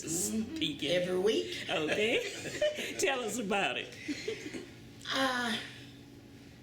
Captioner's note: laughter